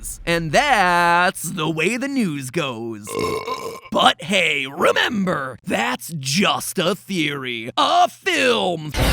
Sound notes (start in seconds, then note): 3.0 buuurps